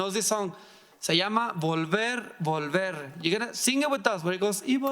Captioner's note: speaking in foreign language